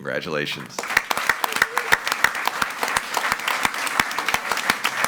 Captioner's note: all applauding